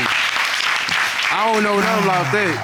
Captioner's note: audience applauding